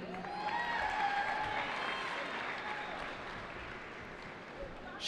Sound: cheering

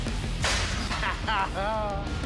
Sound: laughs

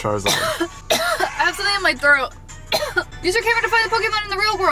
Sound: coughs

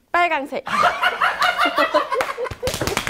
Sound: laughs

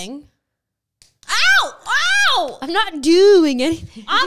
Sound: screaming

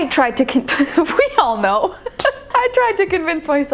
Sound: laughing

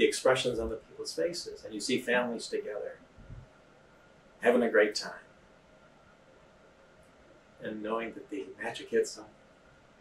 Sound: impact

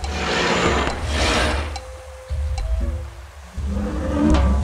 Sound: dinosaur roaring

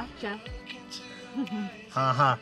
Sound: laughter

